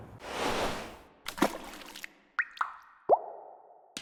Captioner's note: splashing, dripping